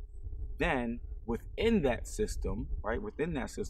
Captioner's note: none